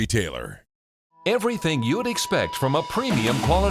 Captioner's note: voiceover